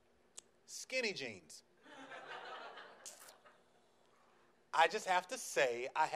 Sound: audience laughs

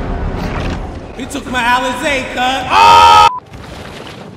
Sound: voice with reverb

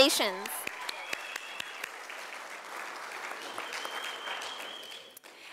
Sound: sound of applause from audience

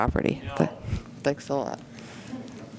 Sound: voice from audience

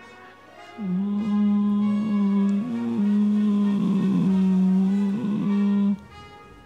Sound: grunt

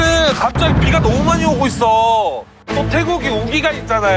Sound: sudden torrential rain

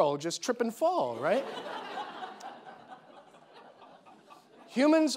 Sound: audience laughing

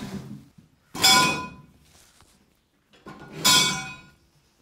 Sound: metal clanking

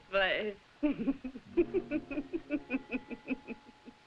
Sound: laughing

